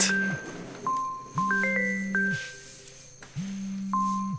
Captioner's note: phone ringing